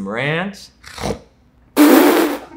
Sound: snorting; laughing

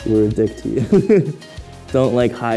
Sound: laughing

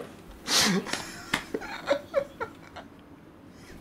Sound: laughing

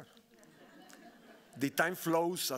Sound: audience laughing

